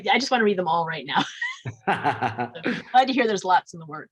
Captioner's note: both laugh